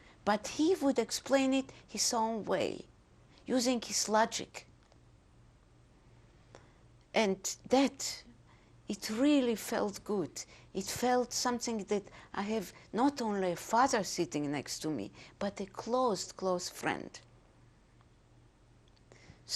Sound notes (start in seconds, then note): 4.4 pauses for 3 seconds